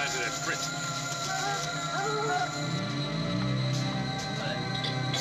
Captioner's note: dogs barking